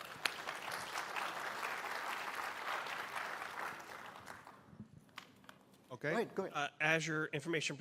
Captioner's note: applause